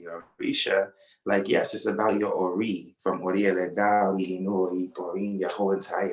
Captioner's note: non-english speech